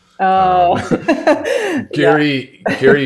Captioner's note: laughs